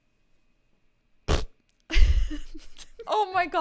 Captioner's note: spitting